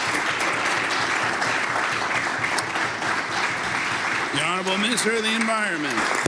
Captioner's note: applause